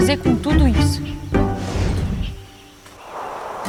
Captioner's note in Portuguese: Pássaros